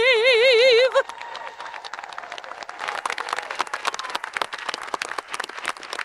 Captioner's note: audience applauding and cheering